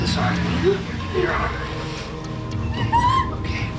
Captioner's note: Nancy groaning